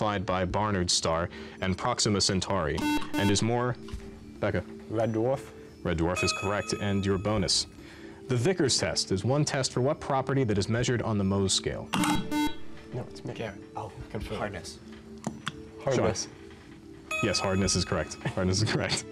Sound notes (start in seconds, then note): 12.5 enthusiastic conferring